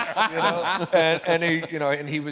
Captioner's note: laughter